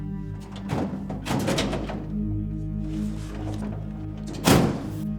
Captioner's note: cabinet drawer rattles